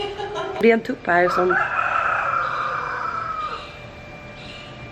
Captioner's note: more crowing